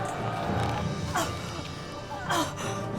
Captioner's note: Naga gasping